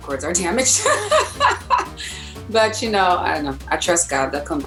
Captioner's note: laughs